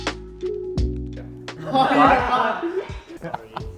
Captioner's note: laughter